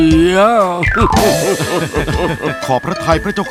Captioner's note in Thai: หัวเราะ